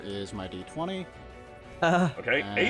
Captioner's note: nervous sound